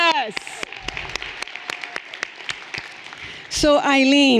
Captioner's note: everyone applauding